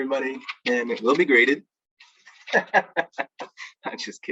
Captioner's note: laughs